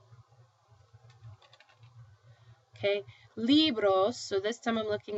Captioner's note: speaking spanish